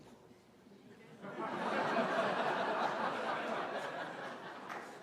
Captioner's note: laughter